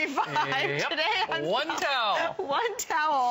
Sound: laughter

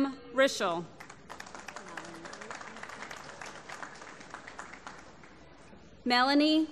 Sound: applause

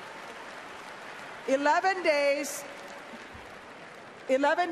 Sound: applause

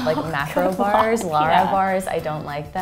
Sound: laughs

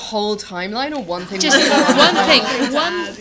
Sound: laughter

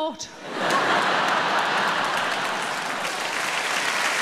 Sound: audience clapping

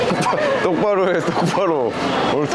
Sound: laughing

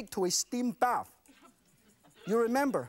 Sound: audience laughs

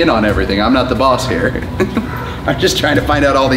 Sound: laughs

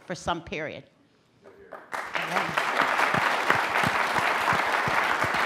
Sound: applause

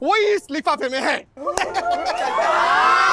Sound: laughs

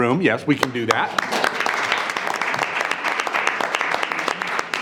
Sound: everyone applauds

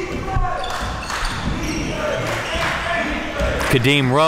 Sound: applause

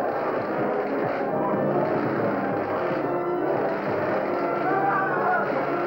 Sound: thumping; shouting

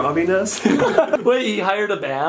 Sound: laughs

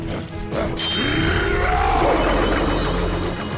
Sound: grunting

